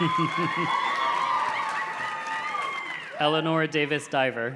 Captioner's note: name reader chuckles